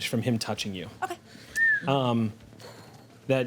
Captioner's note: whistles